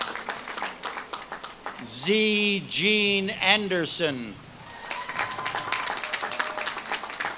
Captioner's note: audience claps and cheers